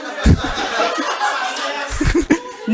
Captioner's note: laughter and murmurs